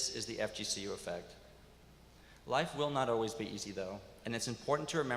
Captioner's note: none